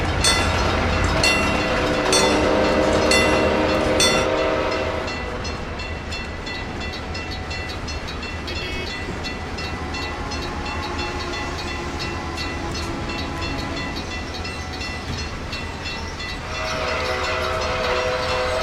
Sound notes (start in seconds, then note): 0.0 PRR T1 whistle, locomotive bell ringing; 0.1 C&O Greenbrier whistle; 4.4 C&O Greenbrier whistle, ringing stops; 6.8 CNJ Blue Comet Pacific whistle; 16.3 C&O Greenbrier whistle